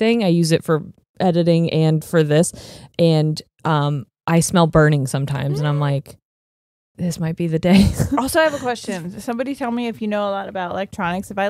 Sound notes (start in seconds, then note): 7.8 chuckles